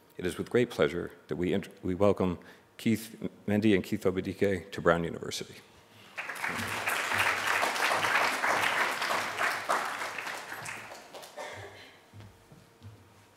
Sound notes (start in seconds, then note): 6.1 applause